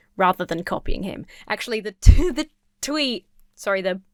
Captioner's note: laughs